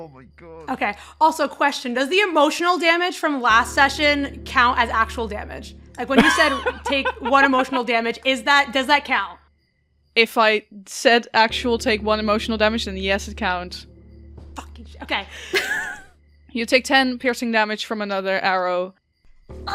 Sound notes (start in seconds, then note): 6.1 laughs; 15.0 laughs